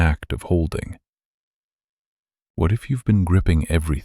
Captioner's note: short pause